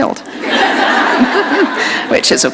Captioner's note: laughter